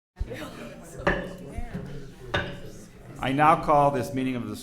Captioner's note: gavel thudding